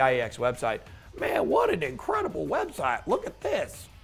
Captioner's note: mockingly